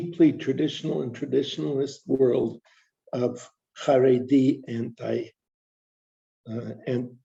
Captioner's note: non-english speech